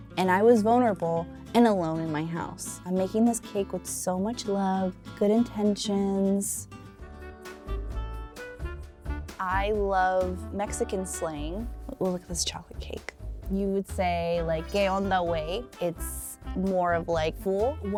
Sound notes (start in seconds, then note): 7.2 upbeat music; 14.5 foreign language